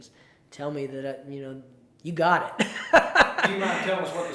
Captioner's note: laughs